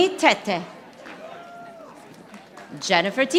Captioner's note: audience applauding